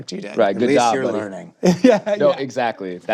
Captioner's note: chuckles